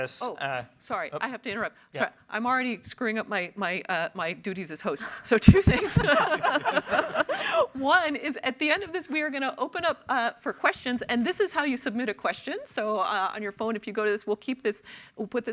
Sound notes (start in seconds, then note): 5.5 panelists laugh; 5.5 everyone laughs